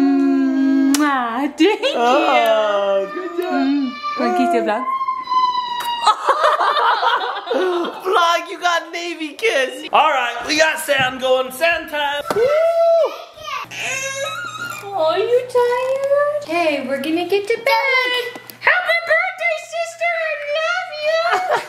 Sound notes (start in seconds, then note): 5.8 both laugh; 13.5 cries; 21.4 dad laughs